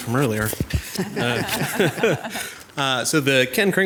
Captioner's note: group laughs